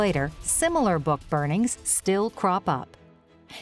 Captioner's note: bombs banging